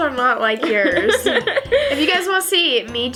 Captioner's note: laughs